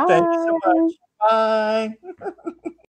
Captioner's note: laughs